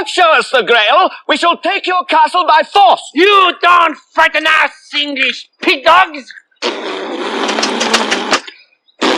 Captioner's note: blows raspberry